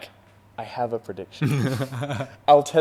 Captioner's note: laughing